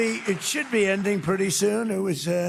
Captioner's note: applause